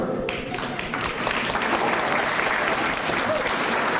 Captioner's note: applause